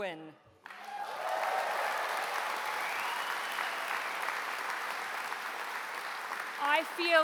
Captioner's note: applause